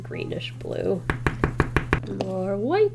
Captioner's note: tapping